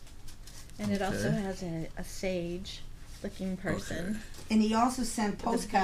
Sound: voiceover

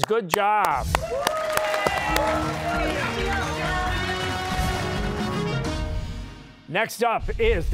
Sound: cheers and applause

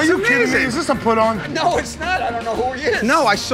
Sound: laughing

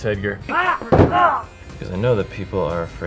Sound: grunting in pain

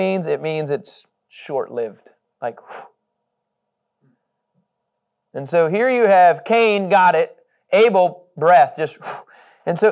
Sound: blowing

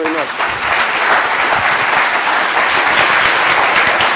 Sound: applause

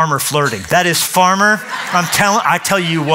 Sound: laughter

